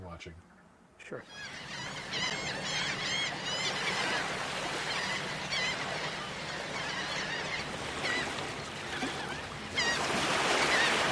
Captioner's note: seagulls Cawing